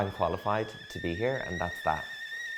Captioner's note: steam hissing